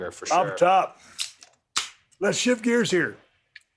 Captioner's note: can beer clinks